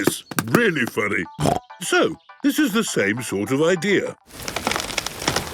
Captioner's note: snorting